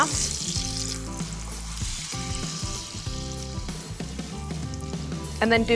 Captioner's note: sizzling